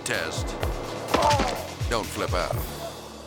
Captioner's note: impact crunches; driver groans